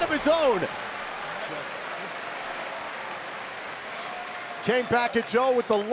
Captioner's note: audience applauds